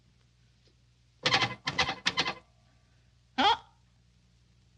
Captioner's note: phone tapping